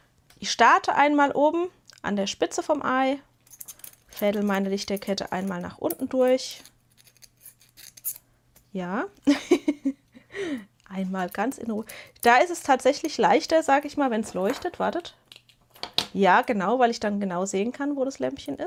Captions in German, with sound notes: So, und hier wird auch wieder gefäelt. Ich starte einmal oben an der Spitze vom Ei, fädel meine Lichterkette einmal nach unten durch. Ja, [gelächter] einmal ganz in R. Da ist es tatsächlich leichter, sage ich mal, wenn es leuchtet. Wartet. Ja, genau. Weil ich dann genau sehen kann, wo das Lämmchen